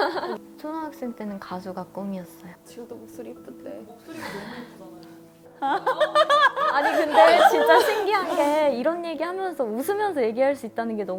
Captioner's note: laughs